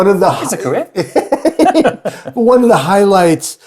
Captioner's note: chuckles